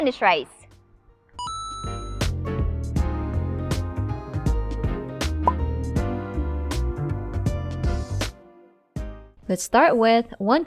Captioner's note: coin flips, bottle pops